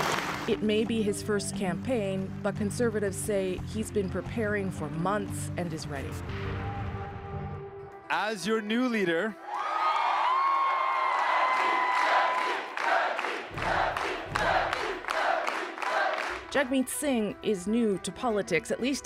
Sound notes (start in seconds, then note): 9.4 cheers; 11.1 chanting